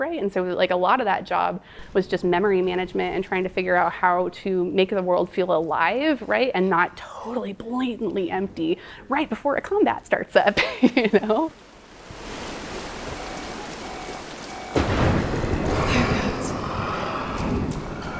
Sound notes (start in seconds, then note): 10.5 giggling; 14.9 lightning crashing